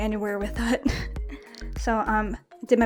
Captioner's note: laughs